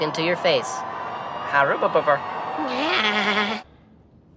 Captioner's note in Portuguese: huahuahuahua